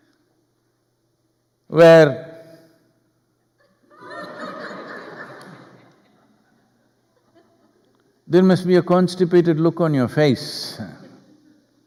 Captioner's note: laughter